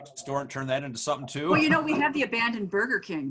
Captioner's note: chuckles